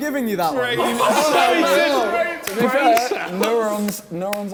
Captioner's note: men laughing